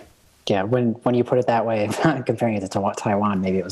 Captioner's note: chuckle